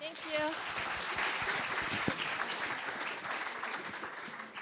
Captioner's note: applause